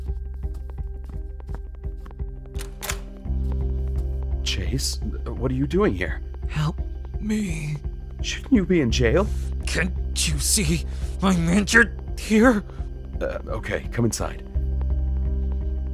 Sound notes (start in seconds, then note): 2.5 door opens